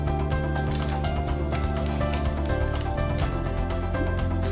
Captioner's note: paper rustling